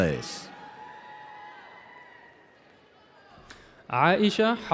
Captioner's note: audience cheering